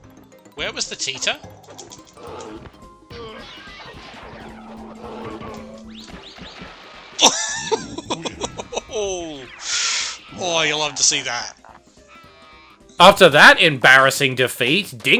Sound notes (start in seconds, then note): 7.2 chuckles